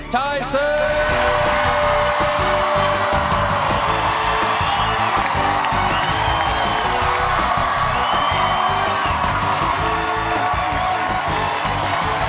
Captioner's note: cheers and applause